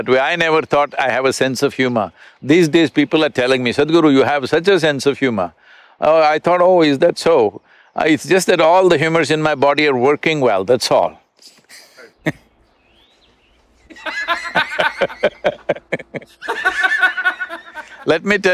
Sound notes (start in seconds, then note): 13.8 both laugh